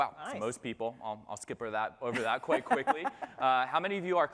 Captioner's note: laughter